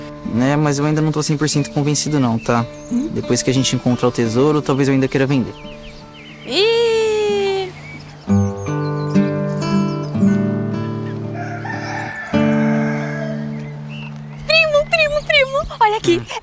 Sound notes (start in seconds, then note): 7.8 birds; 11.1 rooster crowing